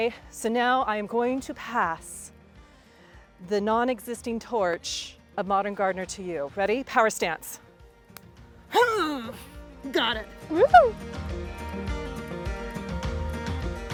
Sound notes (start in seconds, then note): 8.7 grunting; 10.5 cheering